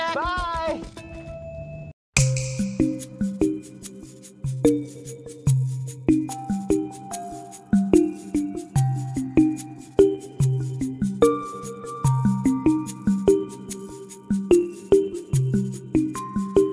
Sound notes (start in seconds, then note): 1.9 snap